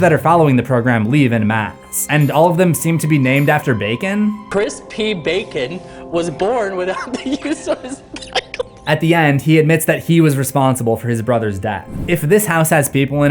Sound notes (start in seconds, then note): 6.9 hysterical laughter